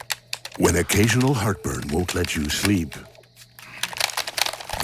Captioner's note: clicking